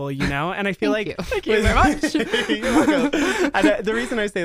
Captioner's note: laugh